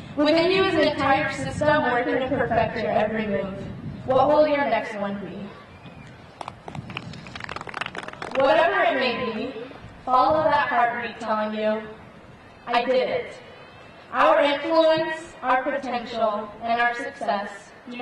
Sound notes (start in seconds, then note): 6.4 audience clapping